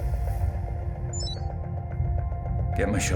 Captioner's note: connection chime